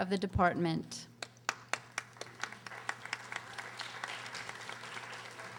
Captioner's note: audience applauding